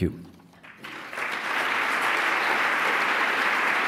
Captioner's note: applause